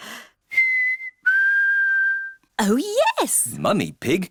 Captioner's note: whistles